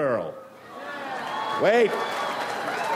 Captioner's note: audience applauds